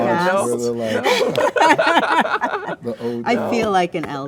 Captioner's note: all laughing